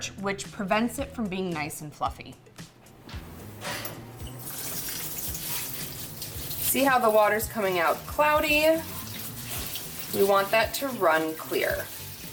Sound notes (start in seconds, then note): 2.9 upbeat music; 4.3 water splashing